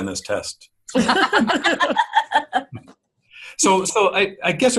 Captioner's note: everybody laughing